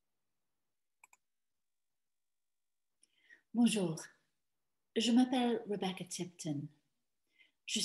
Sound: speaking in French

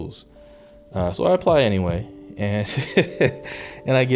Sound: laughing

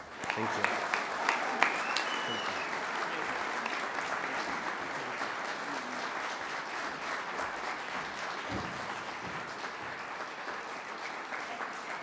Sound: applause

